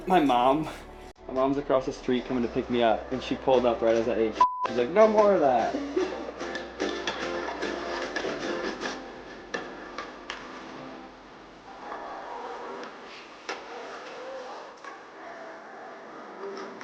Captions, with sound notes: My mom's across the street coming to pick me up and she pulled up right as ate (beep). She's like, "no more of that."